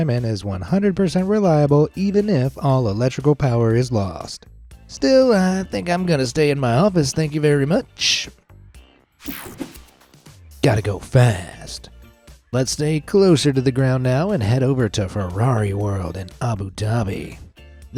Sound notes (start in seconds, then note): 9.2 screen whooshing